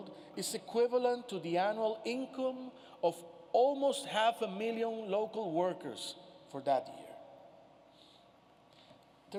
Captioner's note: none